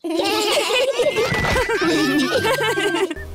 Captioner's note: laughter